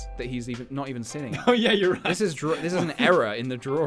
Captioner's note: giggle